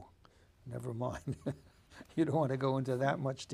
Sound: laughing

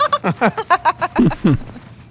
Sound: laughs

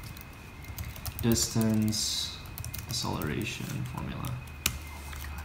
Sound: typing noises

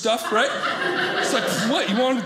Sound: audience laughing

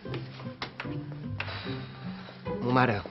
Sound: sighs

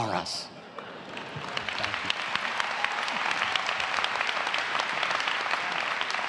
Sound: applause

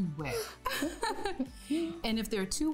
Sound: both laughing

